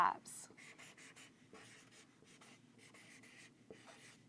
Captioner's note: marker scratching